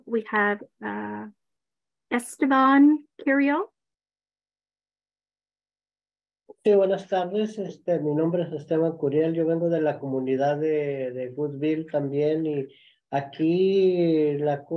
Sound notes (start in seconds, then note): 6.6 speaking in Spanish